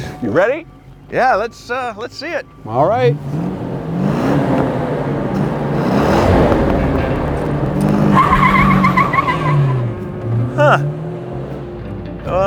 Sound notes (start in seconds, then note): 0.0 laughs; 4.1 engine revs; 8.1 tires squeal; 8.1 upbeat rock music